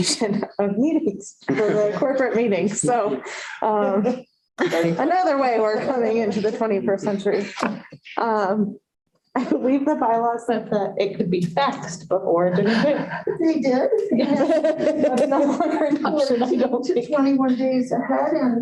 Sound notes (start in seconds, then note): 1.5 laughter